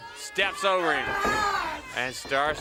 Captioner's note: wrestler screaming